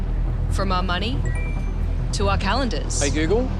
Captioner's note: chimes